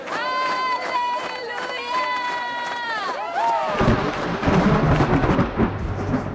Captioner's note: crowd cheering